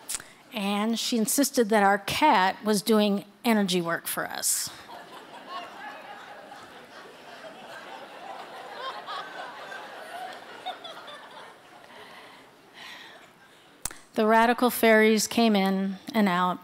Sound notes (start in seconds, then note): 4.8 audience laughter